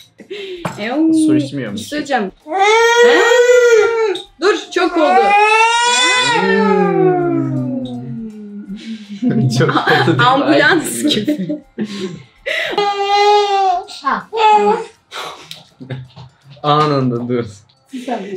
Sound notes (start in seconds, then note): 0.0 laughs; 2.3 baby crying; 6.3 baby crying; 12.6 baby crying; 14.3 laughter